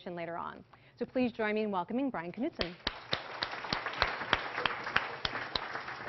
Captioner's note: Applause; 掌聲